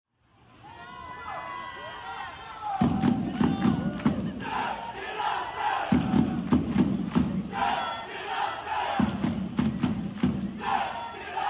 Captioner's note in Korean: 짝짝짝 짝짝